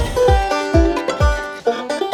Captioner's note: notification